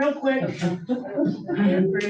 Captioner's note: crowd chuckles